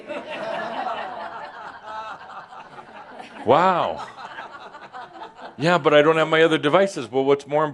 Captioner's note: laughter